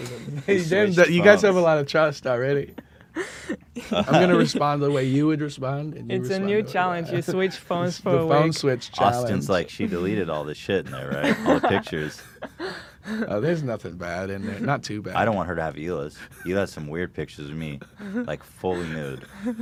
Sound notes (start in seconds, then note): 10.8 laughs